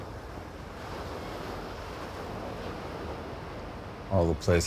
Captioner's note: waves crashing ashore